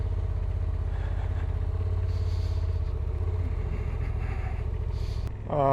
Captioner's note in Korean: 제법 추워하시는 듯한.. 숨소리